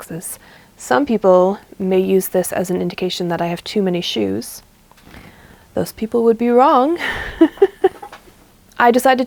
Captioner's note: laughs